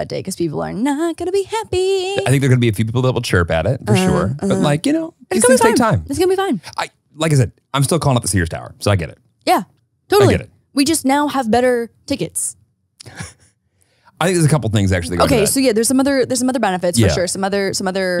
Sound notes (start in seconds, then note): 13.0 laughs